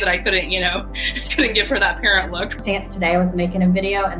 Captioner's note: laughing